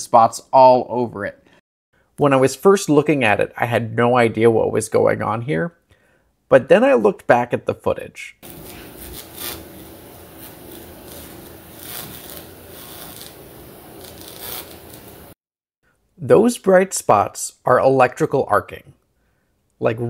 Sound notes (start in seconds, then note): 11.7 loud buzzing